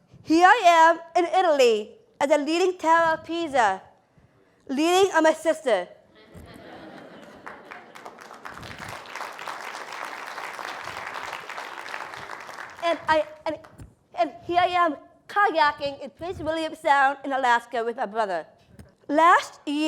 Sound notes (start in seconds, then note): 7.2 applause